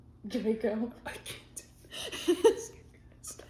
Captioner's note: laughing